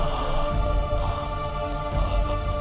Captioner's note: crying in Pain